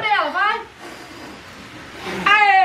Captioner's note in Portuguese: sopro